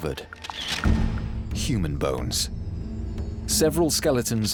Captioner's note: camera shutter clicks